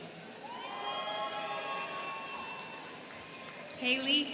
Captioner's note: students cheering